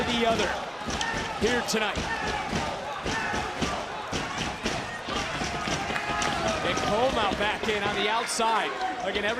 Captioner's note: audience chanting "adam cole"